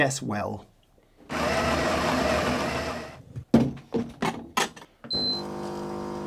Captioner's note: machine grinding; machine beeps and brews